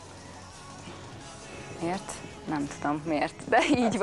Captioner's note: she laughs so nice